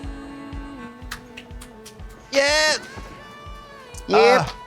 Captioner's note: Trixie applauds